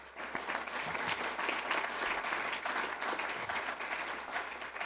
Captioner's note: applause